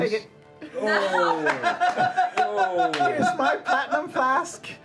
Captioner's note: laughter